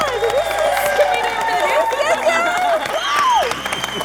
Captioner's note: cheering